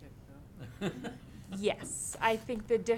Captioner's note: laughs